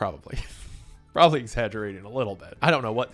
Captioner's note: laughs